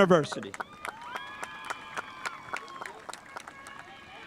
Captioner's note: spectators applauding